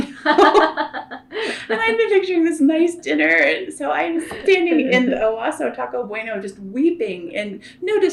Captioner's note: laughter